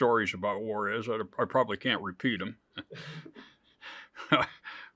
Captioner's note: chuckles